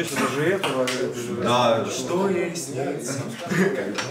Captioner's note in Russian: напевает